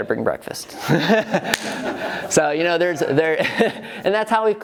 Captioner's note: laughing